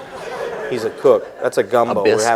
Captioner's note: laughter